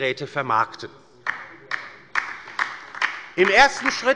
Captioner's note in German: Beifall bei der LINKEN